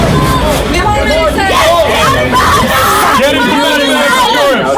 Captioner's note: group chattering